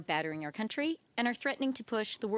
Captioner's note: speaking French